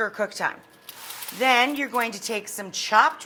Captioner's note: pan scrapes along counter